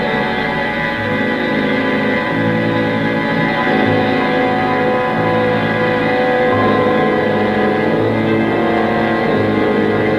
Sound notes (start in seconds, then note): none